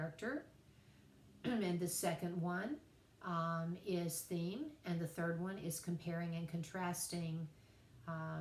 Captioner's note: cough